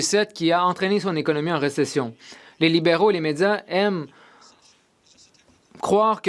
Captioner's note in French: voix de l'interprète